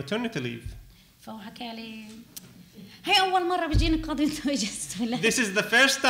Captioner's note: speaking arabic